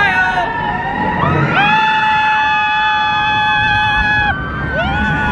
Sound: all screaming excitedly

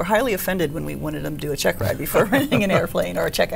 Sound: laughs

